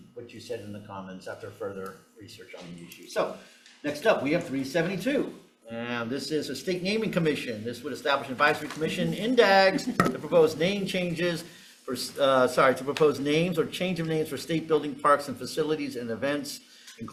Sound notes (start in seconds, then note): 9.7 chuckling